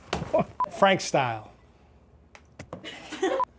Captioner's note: camera beeps; all laugh